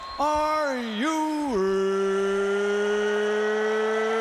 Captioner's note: crowd cheering